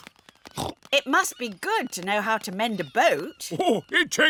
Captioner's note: snorts